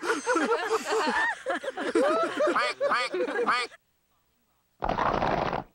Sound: others laughing; quacking

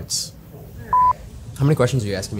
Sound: beep

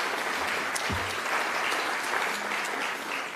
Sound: applause

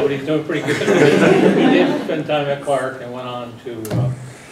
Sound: laugh

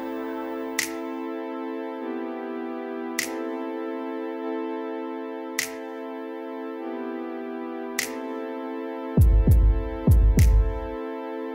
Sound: snaps

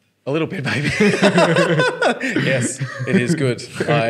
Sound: laughing

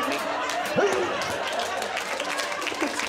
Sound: audience laughing; Guz grunting; audience applauding; audience laughing

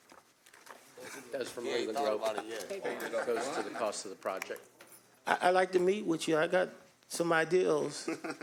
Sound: laughter

